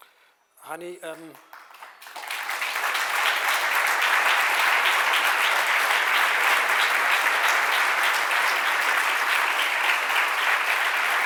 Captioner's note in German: Applaus